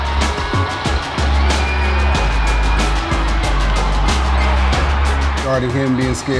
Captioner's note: crowd cheering